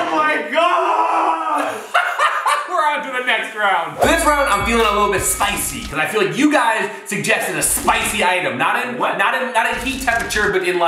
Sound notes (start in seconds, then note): 1.6 laughing; 4.0 bell dings